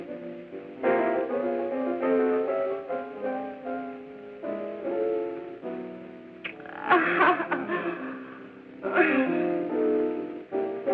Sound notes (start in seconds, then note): 6.5 laughing